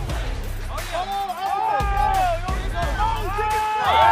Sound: cheering

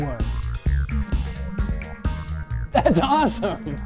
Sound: faint vibrating

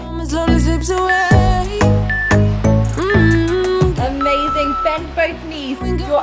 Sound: timer beeps

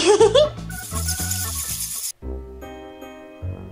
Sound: bats Chirping

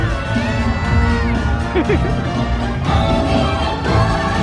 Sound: chuckles; upbeat music

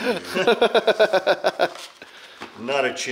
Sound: laughs

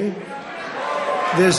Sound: applause

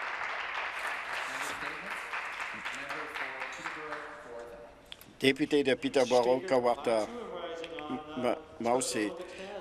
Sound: applause

